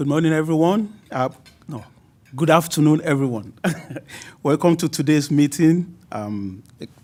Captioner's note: laughs